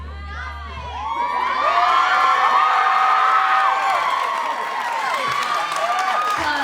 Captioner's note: cheering